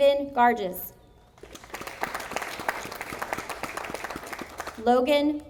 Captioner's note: audience applauding